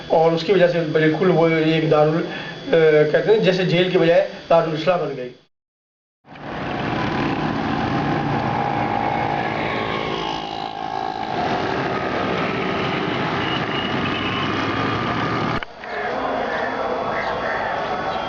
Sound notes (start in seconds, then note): 6.2 vehicle, environment noise